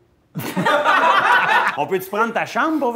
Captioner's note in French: Éclats de rire